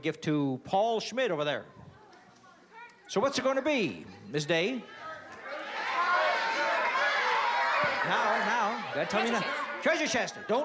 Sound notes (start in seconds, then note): 4.9 audience shouting